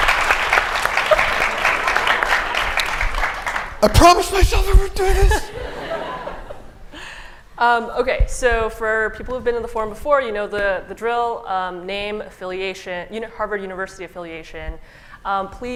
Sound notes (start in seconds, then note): 3.3 choked up; 5.2 laughter